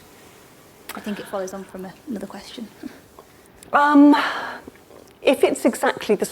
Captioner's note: laughs